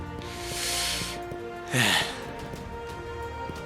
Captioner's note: breathing